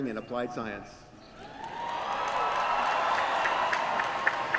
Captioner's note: cheering